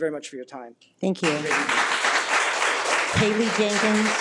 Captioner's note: people applauding